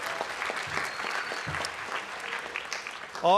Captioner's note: applause